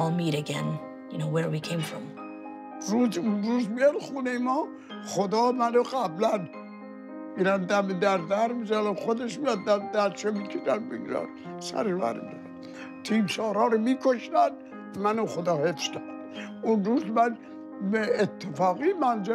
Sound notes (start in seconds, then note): 8.1 speaking foreign language